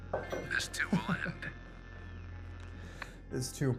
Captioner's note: Kenny laughs